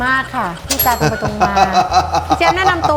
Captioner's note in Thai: หัวเราะ